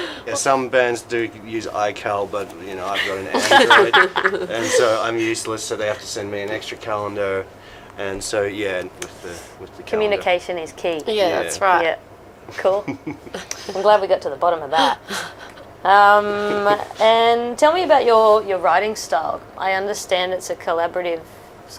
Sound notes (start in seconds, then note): 2.9 laughs